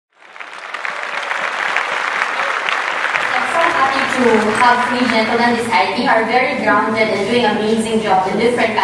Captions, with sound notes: (applause) I'm so happy to have three gentlemen beside me. They are very grounded and doing amazing jobs in different